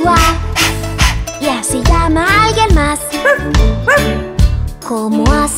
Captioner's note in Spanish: Ladrido